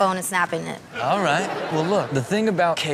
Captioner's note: audience laughs